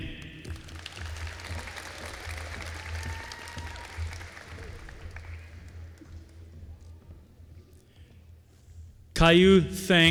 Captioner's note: applause